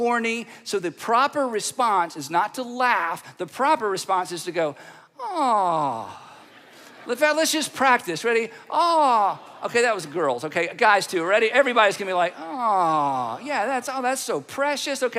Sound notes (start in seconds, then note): 6.2 audience laughing; 8.7 audience responding